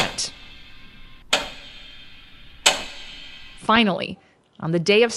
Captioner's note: clock ticking